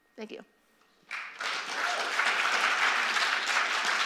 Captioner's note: applause